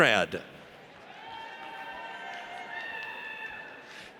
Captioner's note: audience cheers